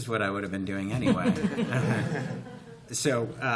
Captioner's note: laughter